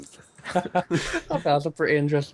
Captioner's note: laughter